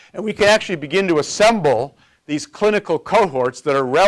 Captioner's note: none